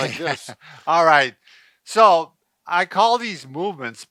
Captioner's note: laughs